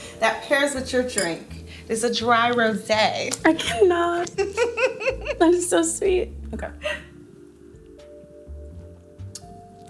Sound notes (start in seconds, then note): 3.5 laughing